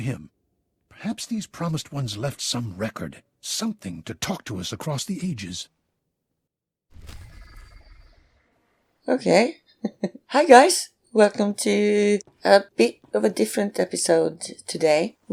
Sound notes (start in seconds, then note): 9.8 chuckles